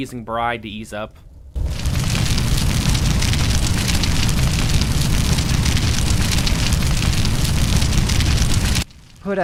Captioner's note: flames intensify